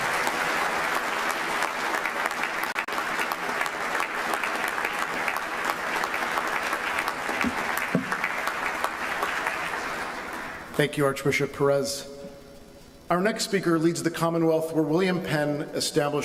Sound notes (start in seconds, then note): 5.3 speaking non-english language; 6.0 applause